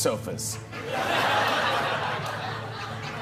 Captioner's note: laughter